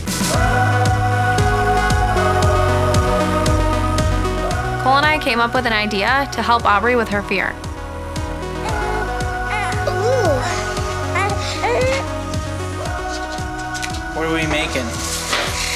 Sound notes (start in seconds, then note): 0.2 upbeat music; 9.5 baby coos